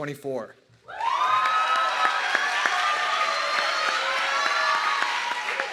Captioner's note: audience clapping and cheering